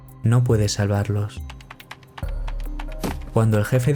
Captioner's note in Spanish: teclado de ordenador